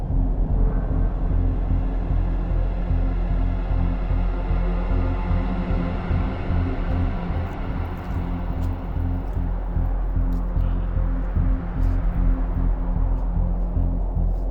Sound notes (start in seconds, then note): 6.8 footsteps crunching